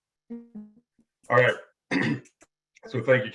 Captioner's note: clears throat